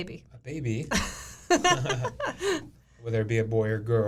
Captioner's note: both laughing